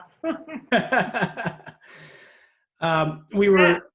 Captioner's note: laughing